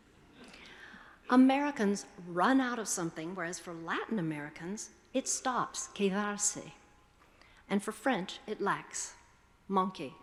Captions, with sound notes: Americans run out of something, whereas for Latin Americans, it stops, (speaking foreign language). And for French, it lacks, (speaking foreign language).